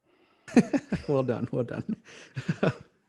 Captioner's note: laughing